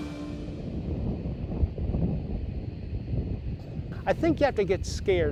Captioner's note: bright upbeat music; thunder rumbling